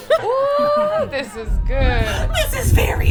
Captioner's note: giggling & laughing